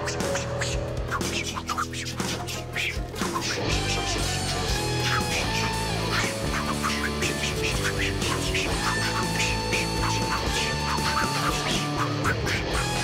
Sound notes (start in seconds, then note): 0.0 making combat noises; 0.0 both making combat noises; 12.7 making combat noises